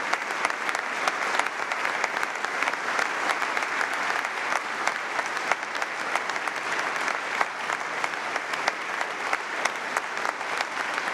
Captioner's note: applause